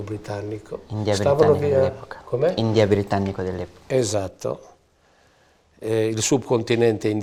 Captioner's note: chatter